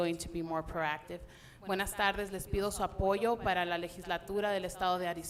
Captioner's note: speaking Spanish